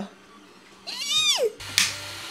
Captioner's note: mini squeal